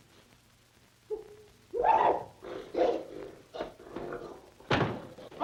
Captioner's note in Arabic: يئن متحمسًا